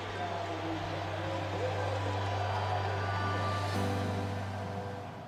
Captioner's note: crowd cheering